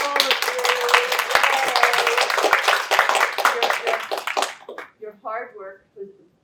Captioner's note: applause